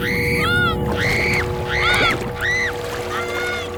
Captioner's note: screaming